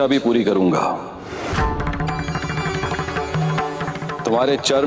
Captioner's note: conch blows